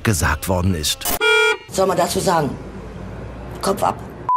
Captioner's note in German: Hupe